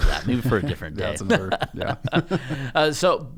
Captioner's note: laughter